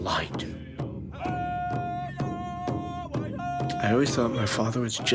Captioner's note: drums beating; voices chant